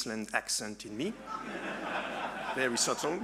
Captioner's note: audience laughing